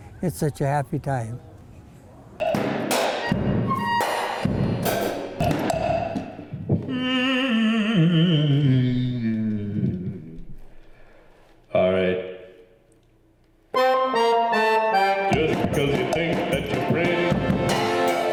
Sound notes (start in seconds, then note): 2.4 percussive beats; 6.8 man humming; 13.7 accordion music